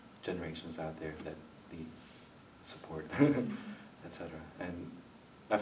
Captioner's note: chuckles